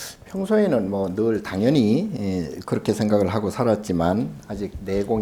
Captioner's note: speaking Korean